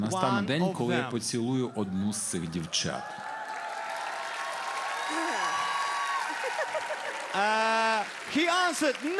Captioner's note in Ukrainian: оплески